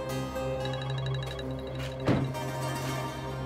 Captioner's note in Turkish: Telefon çalıyor